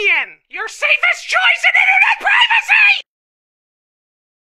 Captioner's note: shrieking